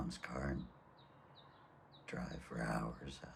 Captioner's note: none